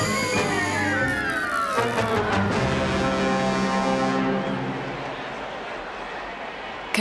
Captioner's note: crowd yelling